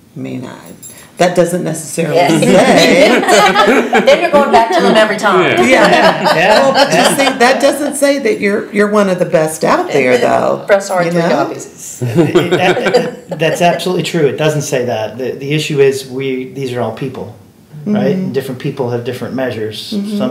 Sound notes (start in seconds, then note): 2.4 laughing